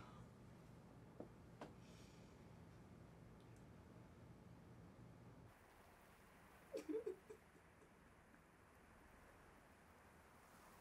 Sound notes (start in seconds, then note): 6.9 Nova crying